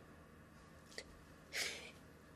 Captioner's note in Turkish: Nefes sesi